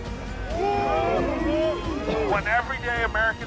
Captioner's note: crowd howling